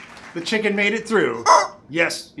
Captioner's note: squawk